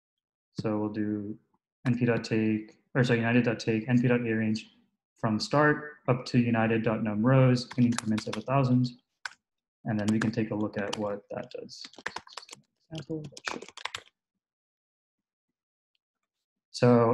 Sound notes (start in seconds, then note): 13.0 typing